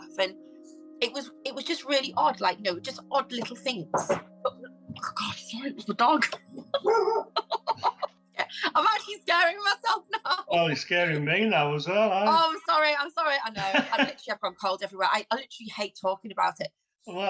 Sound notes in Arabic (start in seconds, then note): 4.0 ضجيج الكائن; 5.7 يضحك; 6.8 بابلو ينبح; 13.5 يضحك